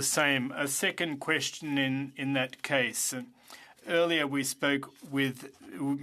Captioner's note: speaking French